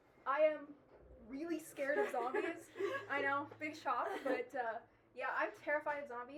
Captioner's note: laughter